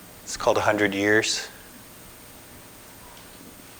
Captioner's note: none